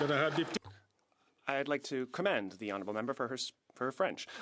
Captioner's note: some Applause